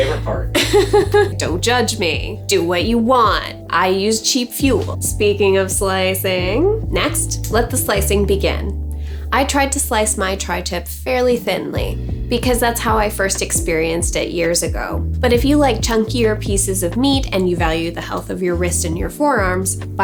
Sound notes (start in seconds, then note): 0.5 laughing